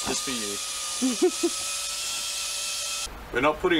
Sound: drilling

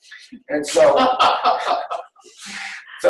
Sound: laughing

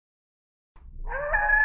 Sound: coyote howling

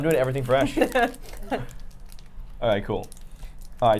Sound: Safiya laughing

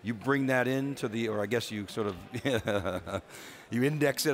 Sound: laughs

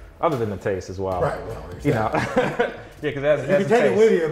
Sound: laughs

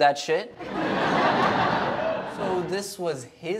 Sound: audience laughs

